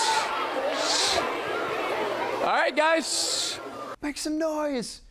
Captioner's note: children screaming